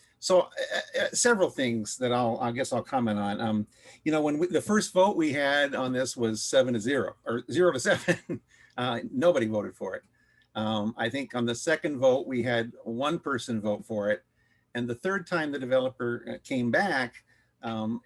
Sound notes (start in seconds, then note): 7.9 laughter